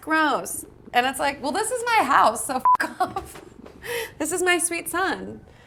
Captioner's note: beep